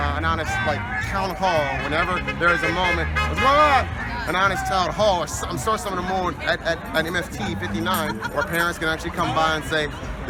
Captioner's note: car honks